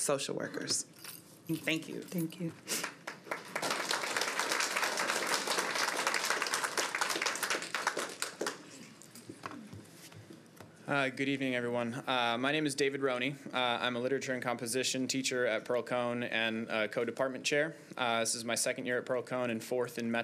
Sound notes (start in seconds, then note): 8.3 applause